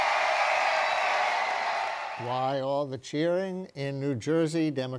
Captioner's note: cheering and applause